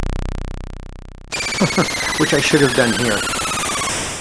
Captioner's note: chuckles